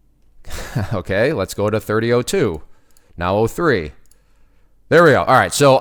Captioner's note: laughs